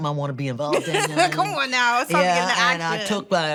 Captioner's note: laughs